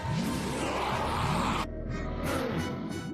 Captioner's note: Goddard roaring